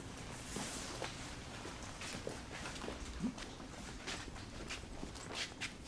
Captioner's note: rustling of clothing/footsteps